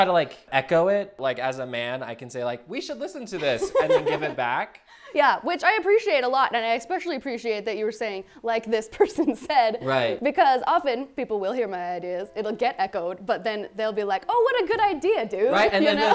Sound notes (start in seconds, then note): 3.4 laughs; 9.4 chuckles; 15.6 laughs